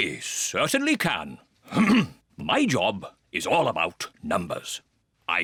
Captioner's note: clears throat